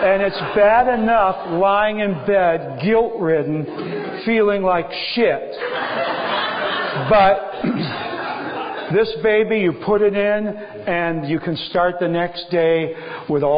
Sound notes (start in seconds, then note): 5.5 laughter